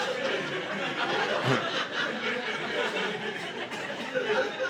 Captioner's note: audience laughing